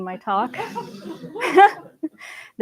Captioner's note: laughter